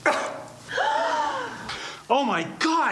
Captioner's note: audience gasps